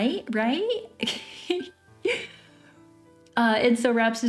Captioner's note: laugh